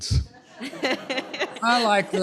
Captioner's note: laughter